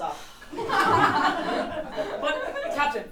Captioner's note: audience laughing